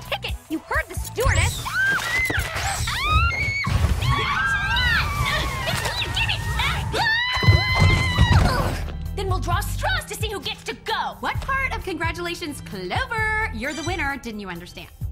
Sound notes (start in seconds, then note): 2.5 all scream; 6.5 all screaming